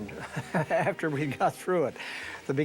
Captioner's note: laughing